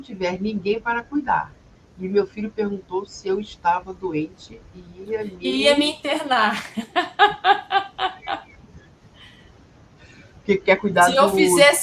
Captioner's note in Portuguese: risadas